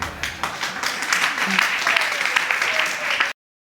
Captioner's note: audience applauds